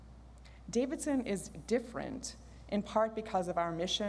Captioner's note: none